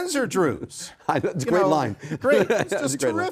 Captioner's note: laughs